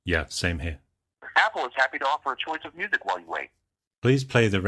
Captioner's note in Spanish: voz grabada